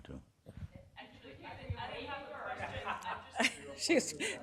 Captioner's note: woman chattering